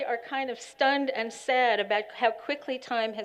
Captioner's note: none